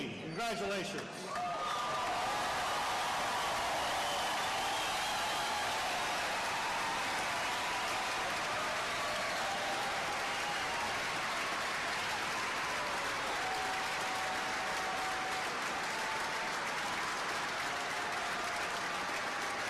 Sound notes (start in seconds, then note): 8.7 cheers and applause